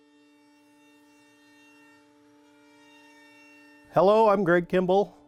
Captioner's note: power tool buzzing